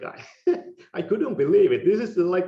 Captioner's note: laughing